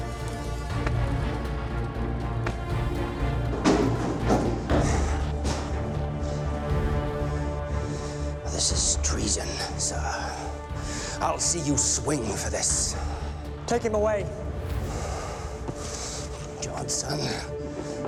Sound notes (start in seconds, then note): 4.4 gasps; 11.0 gasps